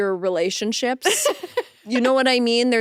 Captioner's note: laughing